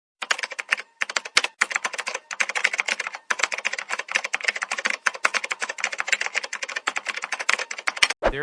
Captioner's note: typing sounds